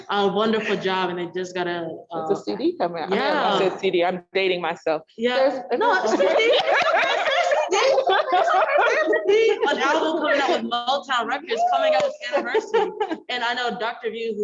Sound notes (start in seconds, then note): 6.1 all laugh